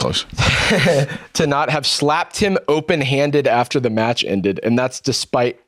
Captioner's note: laughs